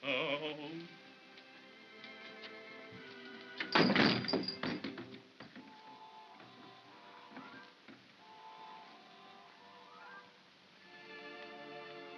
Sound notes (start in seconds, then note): 3.6 door shuts hard; 5.8 soft whimsical music